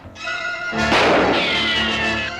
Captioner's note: gunshot